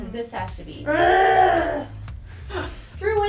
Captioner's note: groaning sounds